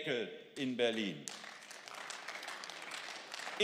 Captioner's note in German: Beifall